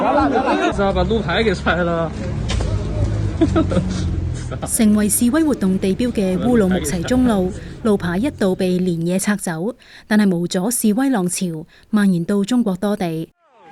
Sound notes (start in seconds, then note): 3.3 laughter